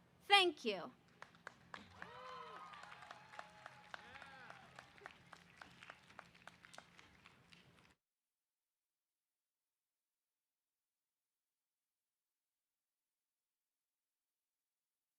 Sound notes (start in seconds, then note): 1.2 audience applause